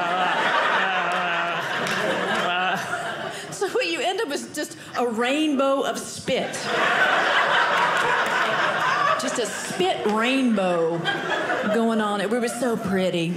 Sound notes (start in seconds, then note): 0.0 audience laughing; 6.5 audience laughing